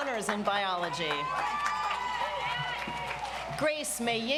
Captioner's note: audience applauds